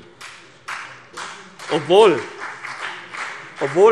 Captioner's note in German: Beifall CDU und BÜNDNIS 90/DIE GRÜNEN